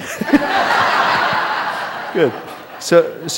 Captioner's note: laughter